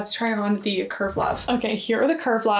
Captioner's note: graphic whooshing